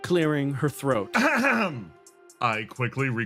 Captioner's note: Yaiyo Clears Throat